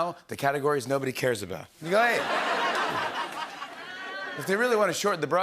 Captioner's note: laughter